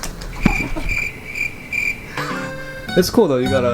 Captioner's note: crickets; upbeat music